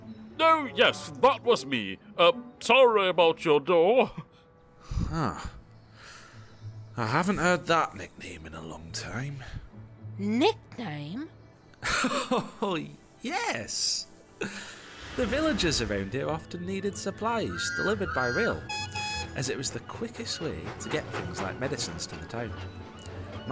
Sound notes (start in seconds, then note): 11.8 laughs